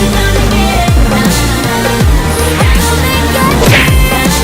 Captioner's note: Underdog brakes hard